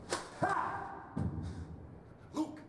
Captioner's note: yells